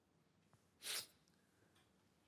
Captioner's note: sniffs